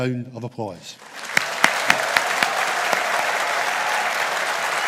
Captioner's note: audience applauding